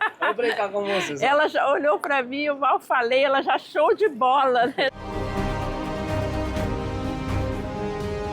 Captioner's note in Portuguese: risos; risos